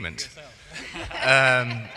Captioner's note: laughing